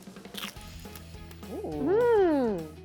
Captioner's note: crunching sound